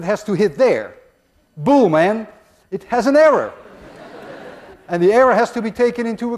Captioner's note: class laughs